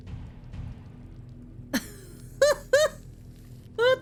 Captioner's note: laughs